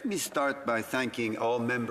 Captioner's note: speaking in French